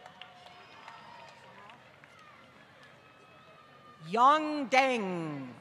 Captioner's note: applause